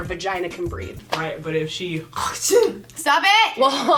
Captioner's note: mimics spitting